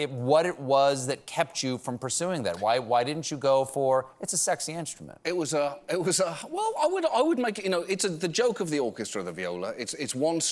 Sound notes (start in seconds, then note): none